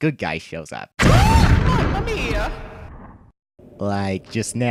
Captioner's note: gets blown up in Italian